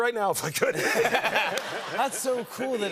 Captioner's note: laughter